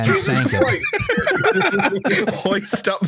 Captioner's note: laughs; laughter